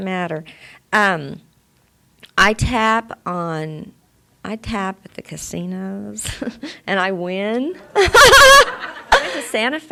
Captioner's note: she laughs